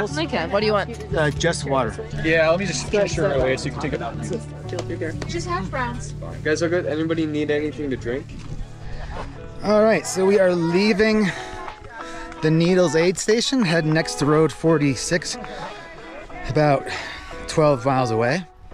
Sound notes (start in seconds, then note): 2.5 crowd chattering